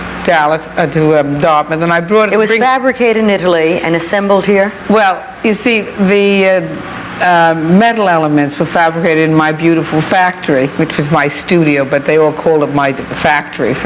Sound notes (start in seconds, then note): none